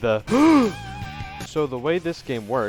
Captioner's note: gasp